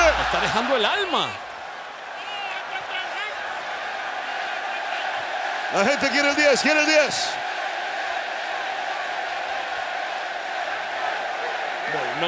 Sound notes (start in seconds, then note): 1.8 applause; 7.8 applause